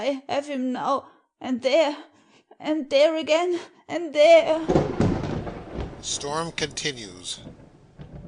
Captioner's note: storm continues